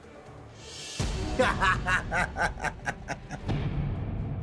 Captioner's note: laughs